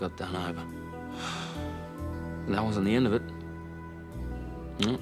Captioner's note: sighs